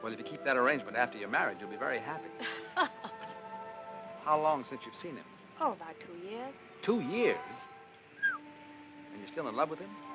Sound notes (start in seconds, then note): 8.1 whistles